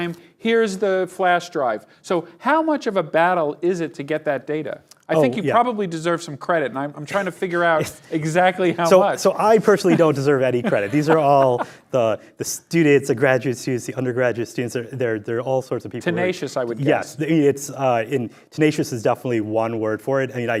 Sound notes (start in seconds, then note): 9.7 laughing